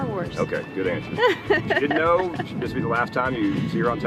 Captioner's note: woman chuckling